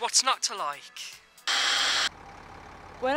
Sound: TV screen fuzzes

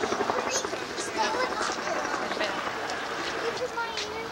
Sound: helicopter sound in background

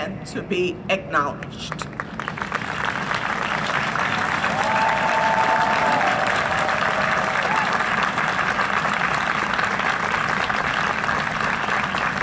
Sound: applause and cheering

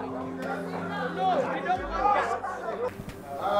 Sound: crowd

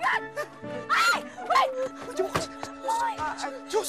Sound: all shuddering

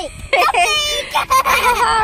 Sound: laughing

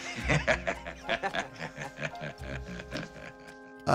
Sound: chortle

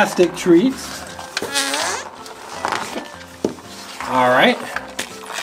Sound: slime Fart Noise

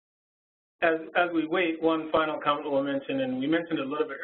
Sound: voiceover

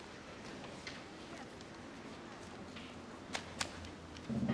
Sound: students chattering in background continues; paper rustling

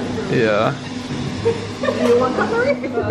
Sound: laughs

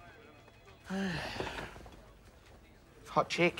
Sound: sighs

